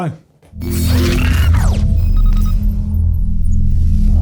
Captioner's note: futuristic sounds